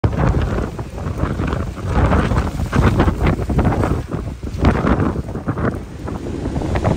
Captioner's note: wind blowing